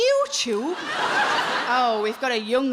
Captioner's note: audience laughing